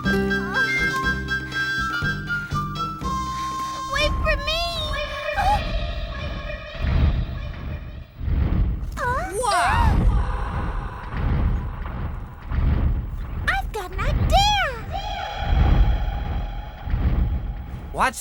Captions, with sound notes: (Nellie panting) - Wait for me! (voice echoing) - Wow! (voice echoing) (footsteps thudding) - I've got an idea! (voice echoing)